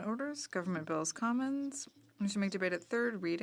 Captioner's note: speaking French